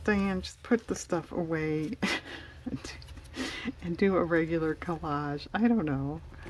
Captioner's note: laughs